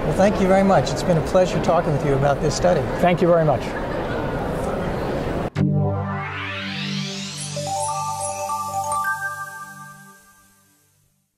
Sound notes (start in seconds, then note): 5.8 electronic whirring; 7.8 chimes